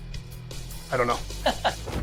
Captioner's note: laughing